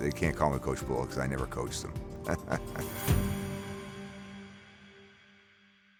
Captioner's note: laughs